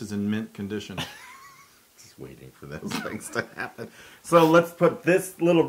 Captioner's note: laugh